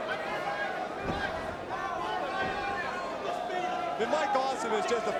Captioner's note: crowd vocalizing